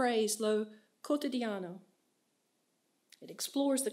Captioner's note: speaks in foreign language